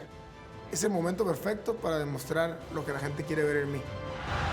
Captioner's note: cheering